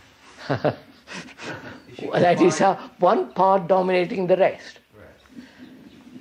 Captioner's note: laughs